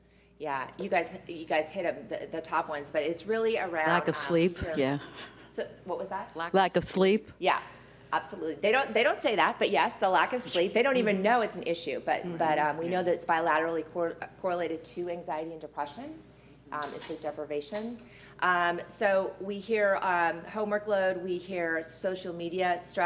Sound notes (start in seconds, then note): 6.7 in Unison